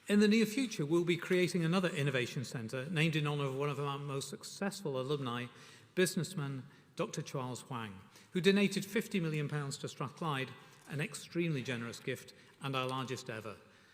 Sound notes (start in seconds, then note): none